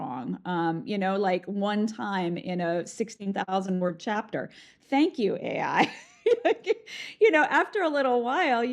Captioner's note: laughs